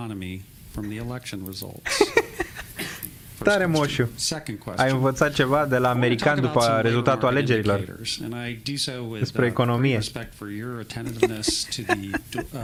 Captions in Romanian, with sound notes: [Râsete] tare moșu ai învățat ceva de la americani după rezultatul alegerilor despre economie